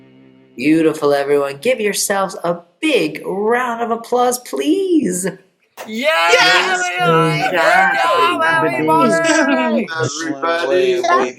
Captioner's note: applause